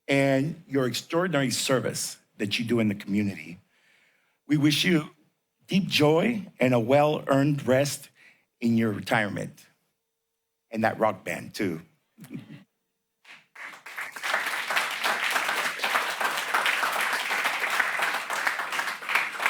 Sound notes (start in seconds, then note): 12.0 laughter; 13.2 applause